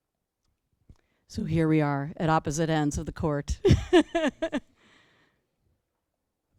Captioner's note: laughter